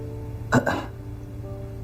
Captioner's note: cough cough